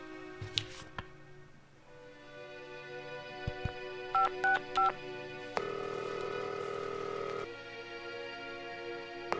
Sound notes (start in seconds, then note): 3.5 finger tapping; 3.6 telephone beeping; 5.6 line ringing